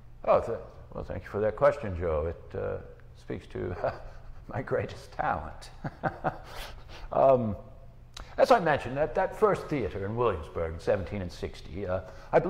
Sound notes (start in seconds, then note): 5.7 laughing